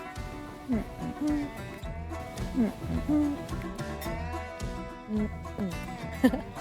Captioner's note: upbeat music continues; hums; laughs; upbeat music continues